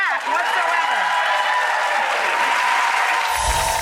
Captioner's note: applauding